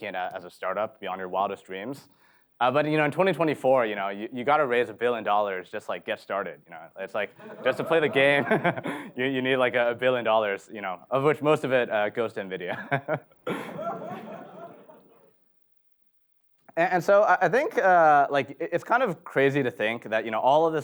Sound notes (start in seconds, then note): 7.3 laughs; 12.6 chuckles; 13.4 audience laughs